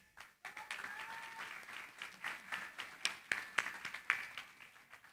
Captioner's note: applause